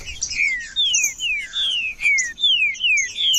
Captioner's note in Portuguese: trinca ferro cantando